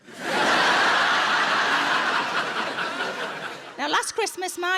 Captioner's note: audience laughs